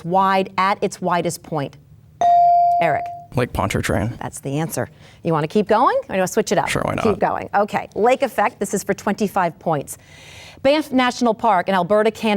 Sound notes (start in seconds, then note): 2.2 bell dings